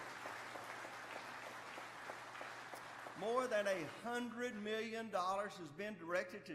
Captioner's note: applause